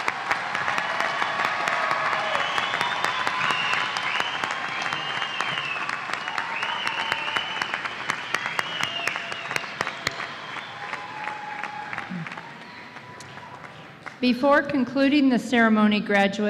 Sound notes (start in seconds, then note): 4.3 cheers and Applause